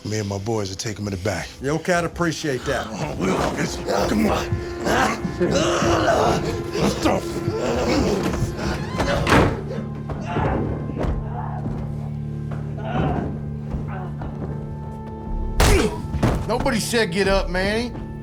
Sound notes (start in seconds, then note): 5.3 Elvio growls; 7.9 door closes; 10.7 Elvio grunts in the next room